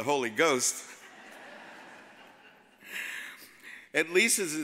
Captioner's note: audience laughs